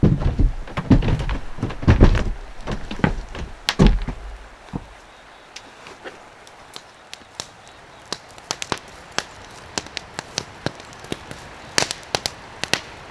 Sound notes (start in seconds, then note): 0.0 heavy footsteps; 5.3 early morning forest sounds